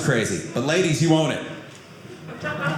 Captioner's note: audience laughing